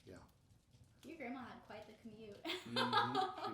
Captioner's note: laughing